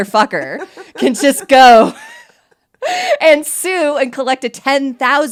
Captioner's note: laughs